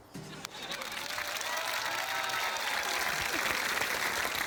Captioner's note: cheering, applause